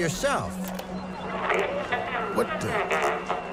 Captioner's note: staticky recording